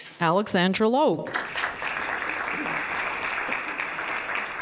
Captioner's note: applause